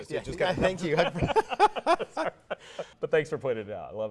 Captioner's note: laughs